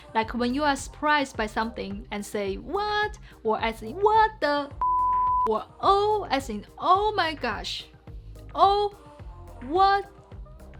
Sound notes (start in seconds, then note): 4.8 beeps